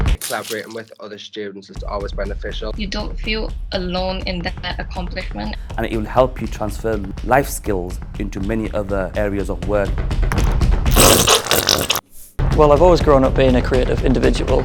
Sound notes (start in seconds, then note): 10.9 icing tubes squelching